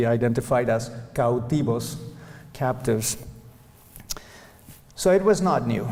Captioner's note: non-english speech